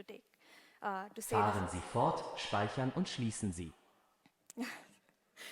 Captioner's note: foreign language 00:15:52